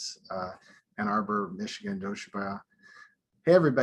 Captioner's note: speaking foreign language